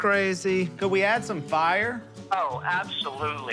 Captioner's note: on phone